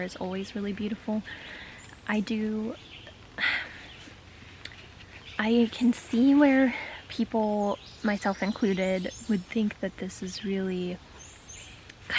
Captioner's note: sigh